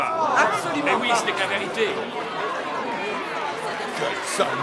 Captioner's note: crowding yelling and clapping